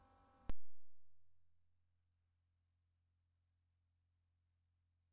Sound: silence

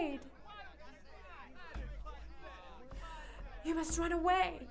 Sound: hunters speaking in the distance; rhythmic drumming

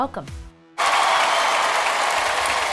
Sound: cheers

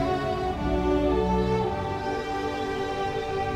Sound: none

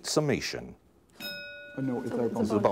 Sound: bell ringing

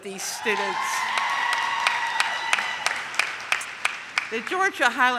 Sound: audience cheers

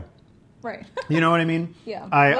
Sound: laughs

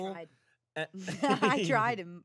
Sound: everyone laughs

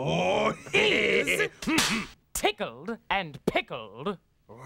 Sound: Cleo cracks pointer

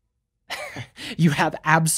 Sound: chuckles

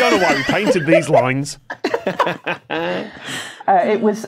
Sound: guests laughing

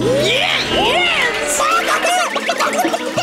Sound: clucking

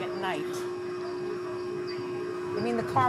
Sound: alarm wailing faintly

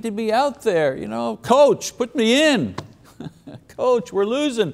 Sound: laughs

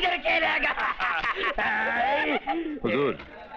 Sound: laughs

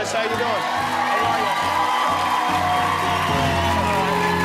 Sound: cheering

